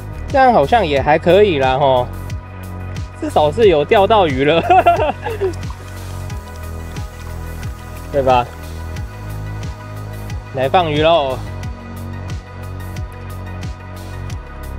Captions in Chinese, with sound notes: 這樣好像也還可以啦 至少是有釣到魚了 哈哈哈(苦笑) 對吧 來放魚囉